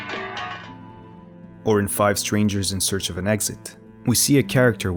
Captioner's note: metal clanking